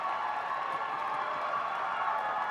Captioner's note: cheers and applause